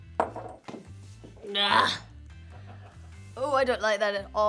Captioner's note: groans